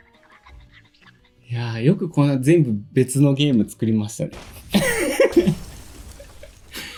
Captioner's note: laughs